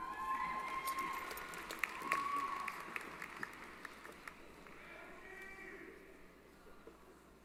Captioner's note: applause & Cheering